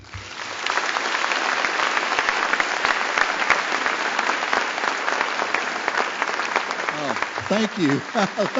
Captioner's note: applause